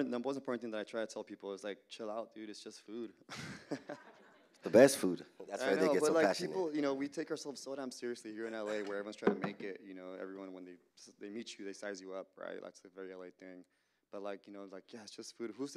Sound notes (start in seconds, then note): 3.2 laughter